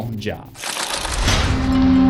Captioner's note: impact